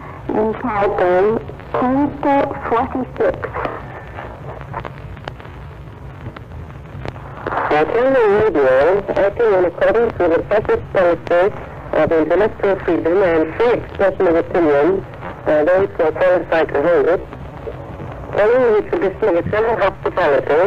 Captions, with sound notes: entitled, "Canto 46" (static) Italian Radio acting in accordance with the fascist policy of intellectual freedom and free expression of opinion by those who are qualified to hold it, *** hospitality